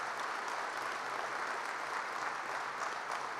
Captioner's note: applause